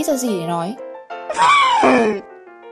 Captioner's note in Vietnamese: Tiếng cún ngáp